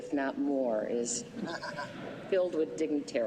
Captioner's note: laughter